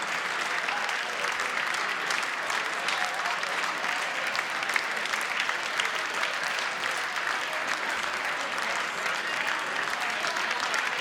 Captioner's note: applause